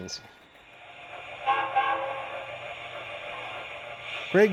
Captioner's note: train whistles; voiceover